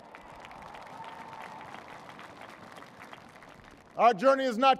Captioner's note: applause